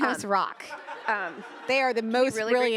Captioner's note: attendees laughing